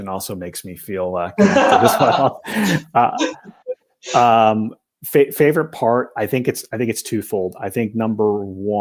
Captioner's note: laughter